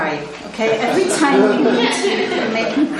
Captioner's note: participants laugh